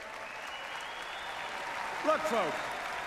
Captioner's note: applause